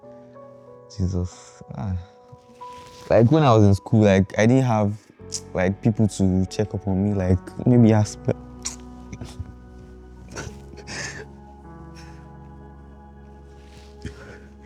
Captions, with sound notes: -Uh-uh. -Jesus, ah. -Like I think you can do it. -Like when I was at school, like I didn't have, like people to check up on me, like maybe as... [sobs]